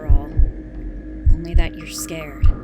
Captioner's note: heartbeat sound effect